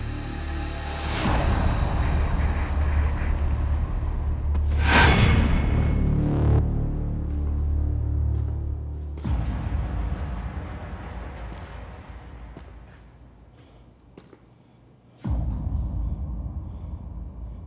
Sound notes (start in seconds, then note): 2.0 radio chatter